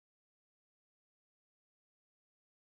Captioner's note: none